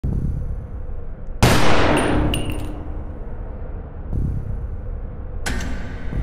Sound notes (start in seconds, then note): 0.1 ambient music; 1.5 gunshot / shell hitting the ground; 2.6 ambient music